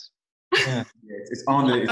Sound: laughs

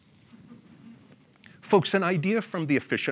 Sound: audience laughs

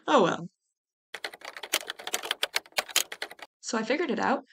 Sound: sound of typing

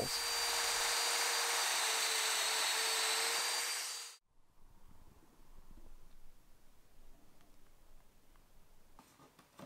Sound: domino machine being used

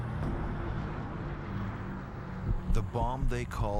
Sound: plane engine roaring

